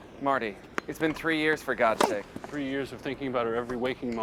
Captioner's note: popping